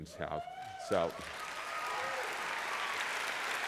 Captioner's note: applause